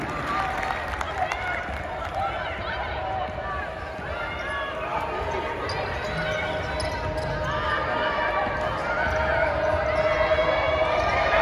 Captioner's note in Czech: Potlesk